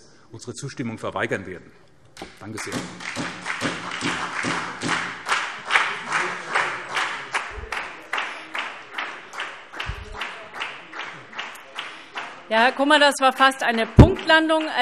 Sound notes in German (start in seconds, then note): 2.5 Beifall SPD